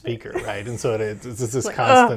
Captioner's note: laughs